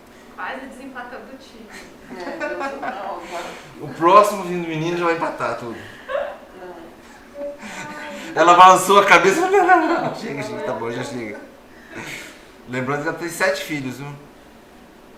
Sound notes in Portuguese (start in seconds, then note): 1.7 risos; 4.9 risos